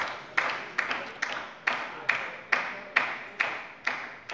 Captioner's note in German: Beifall bei der LINKEN